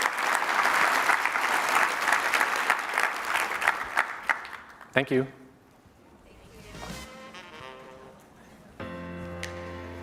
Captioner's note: applause